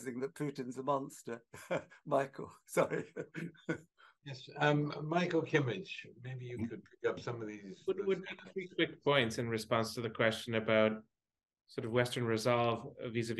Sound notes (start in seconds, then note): 7.4 faintly speaking